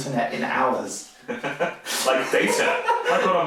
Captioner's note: laughing